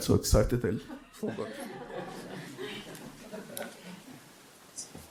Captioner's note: audience laughing